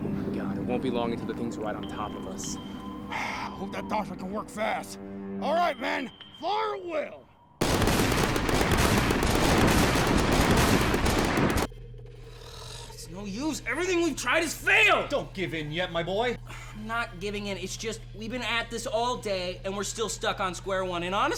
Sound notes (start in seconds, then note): 3.1 sighs; 7.6 guns firing